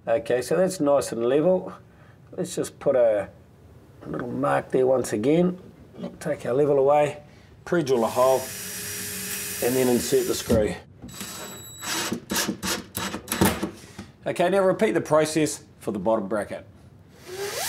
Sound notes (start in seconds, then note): 11.8 drilling sounds